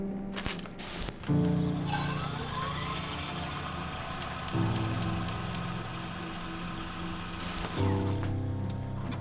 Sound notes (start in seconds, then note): 1.6 stove clicking; 1.8 machinery whirring